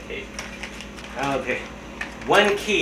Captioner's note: rustle